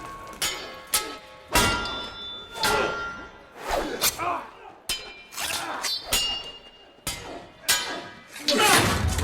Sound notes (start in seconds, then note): 1.2 both grunting